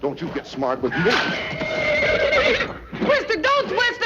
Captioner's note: horse neighing